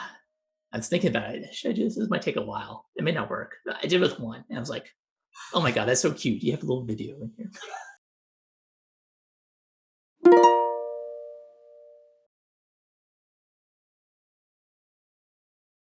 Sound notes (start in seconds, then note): 7.5 laughs; 10.3 chime